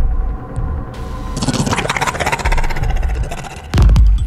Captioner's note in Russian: рык